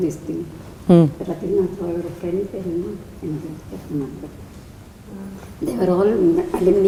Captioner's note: in Tamil